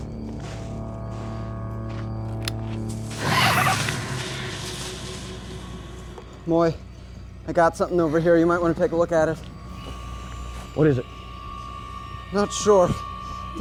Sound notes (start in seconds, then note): 2.4 branch snaps; 3.2 animal shrieks; 4.4 branches rustling